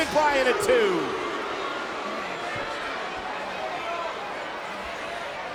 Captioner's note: crowd chattering